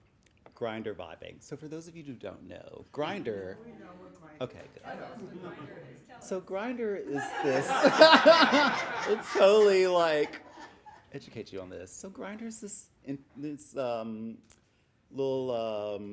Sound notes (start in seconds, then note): 7.1 laughing